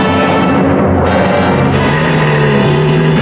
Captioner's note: growling